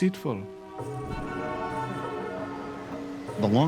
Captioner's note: vehicle horns honking